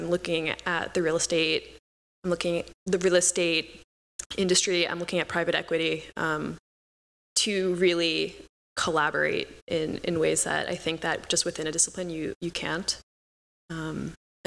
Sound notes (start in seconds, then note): none